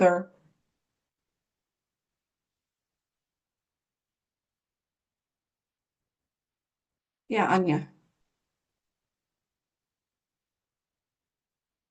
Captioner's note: pause